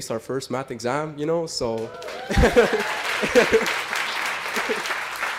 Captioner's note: applause